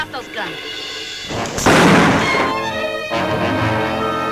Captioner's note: gun bangs; tense music